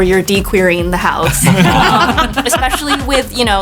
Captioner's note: cast laughs